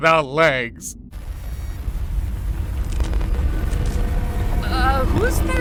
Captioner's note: spooky glitches